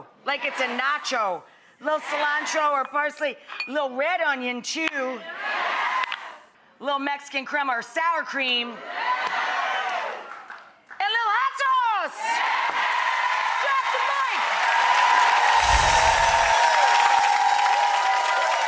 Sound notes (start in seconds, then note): 12.2 audience applause